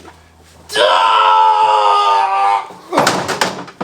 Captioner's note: groaning